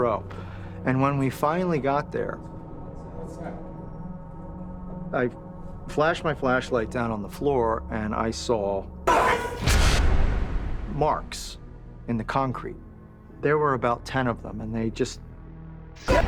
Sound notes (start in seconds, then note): 9.0 bars slam; 9.1 screams